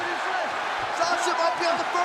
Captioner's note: crowd cheering